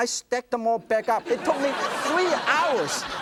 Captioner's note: laughter